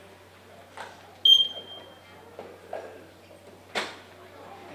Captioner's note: suit beeps